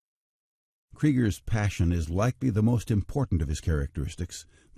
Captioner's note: voiceover